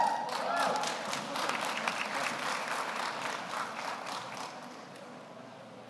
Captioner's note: audience cheers; audience applauds